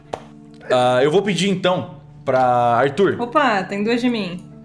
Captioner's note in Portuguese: risadas